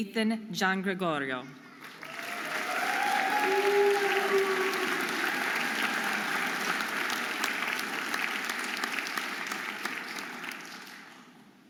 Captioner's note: audience applauding and cheering